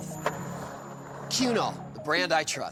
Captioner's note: skateboard wheels roaring